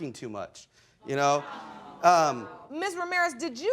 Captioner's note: audience sighs